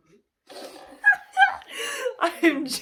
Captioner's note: squeaks